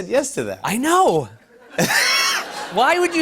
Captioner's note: laughter